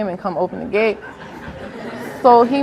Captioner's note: audience laughs